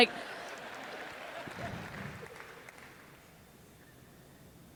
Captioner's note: laughter